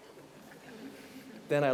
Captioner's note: audience laughing